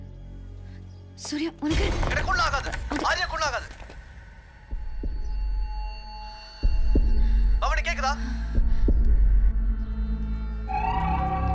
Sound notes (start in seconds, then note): 4.9 heart beat